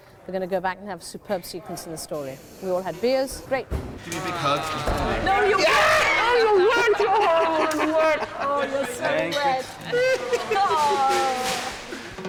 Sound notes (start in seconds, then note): 5.9 laughing; 9.8 laughing